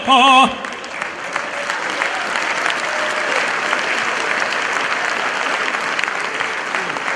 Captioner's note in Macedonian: аплауз